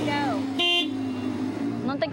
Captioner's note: car honking; non-english speech